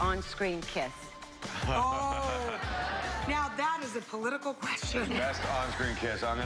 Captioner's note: cheers and applause